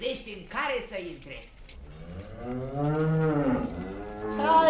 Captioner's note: the cow moos